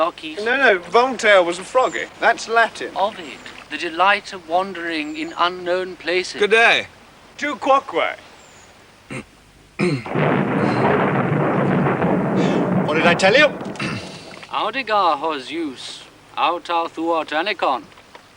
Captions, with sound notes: No, no, Voltaire was a froggy. That's Latin. Ovid. "The delight of wandering in unknown places." Good day. Tu quoque. (CLEARING THROAT) (THUNDER ROLLING) What did I tell you? (SPEAKING IN LATIN)